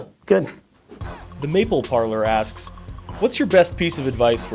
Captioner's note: voiceover